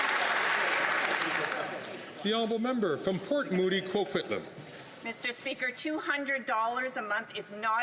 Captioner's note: some Applause